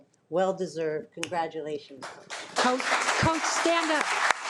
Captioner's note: audience applauding